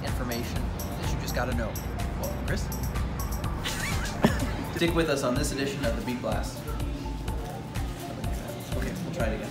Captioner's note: laughter